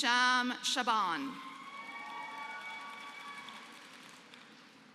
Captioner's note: applause